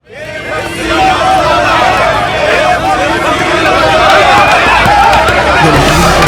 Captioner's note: protest Commotion